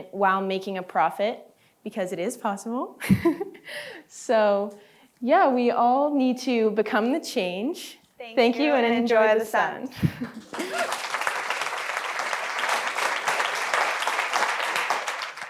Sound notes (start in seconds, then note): 10.4 applause